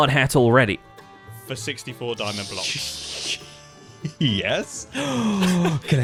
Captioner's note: shocked stuttering; gasps; laughs